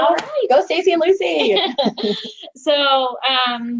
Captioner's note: chuckles